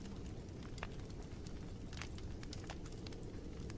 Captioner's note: fire crackling